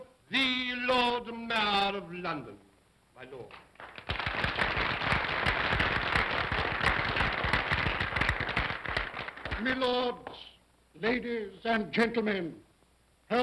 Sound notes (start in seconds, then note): 3.6 applause